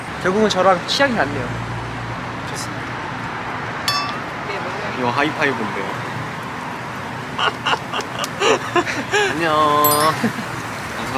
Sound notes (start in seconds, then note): 7.3 hahaha